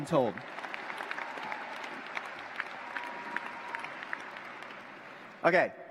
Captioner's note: cheers, applause